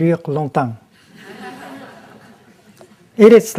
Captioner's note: laughter